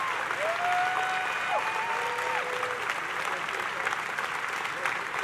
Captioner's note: audience continue applauding; attendees cheering